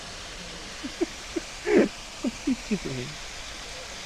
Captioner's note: laughs